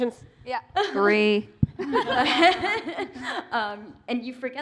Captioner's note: laughter